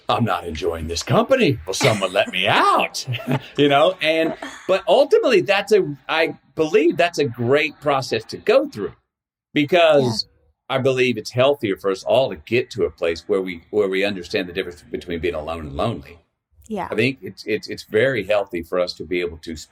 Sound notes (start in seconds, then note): 1.7 laughing